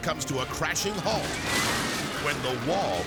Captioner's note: wall crashes